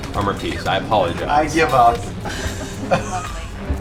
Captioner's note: sighs